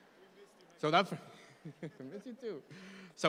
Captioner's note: laughs